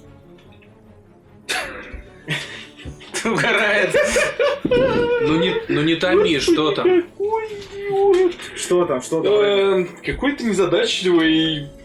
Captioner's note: laughs out loud